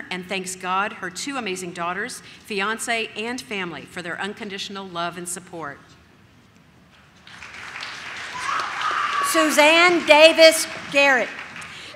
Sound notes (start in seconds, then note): 7.4 audience cheers